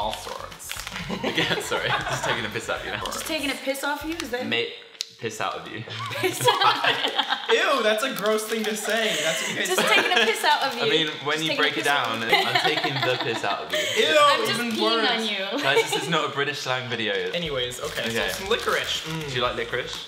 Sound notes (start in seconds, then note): 1.0 laughter; 5.9 laughter